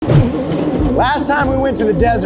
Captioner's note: engine revving